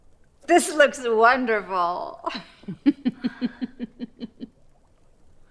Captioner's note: laughs